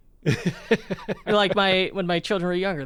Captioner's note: laughs